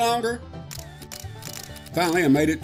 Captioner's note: camera flashes a-plenty